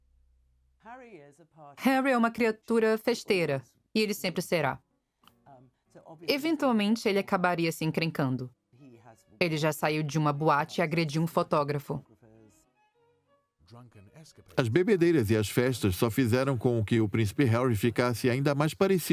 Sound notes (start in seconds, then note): 13.2 voiceover